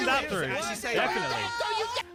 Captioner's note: everyone shouting